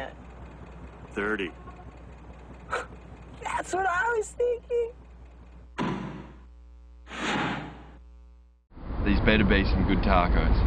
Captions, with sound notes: "30" *laugh* "that's what I was thinking" *dropping sound of bag* these better be some good taco's